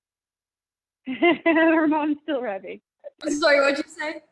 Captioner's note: laughs